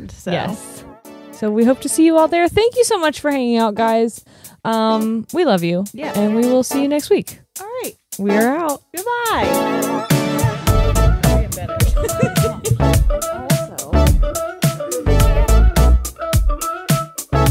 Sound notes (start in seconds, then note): 0.2 upbeat music playing; 10.2 upbeat music; 11.6 laughs